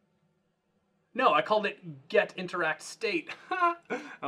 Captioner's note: laughing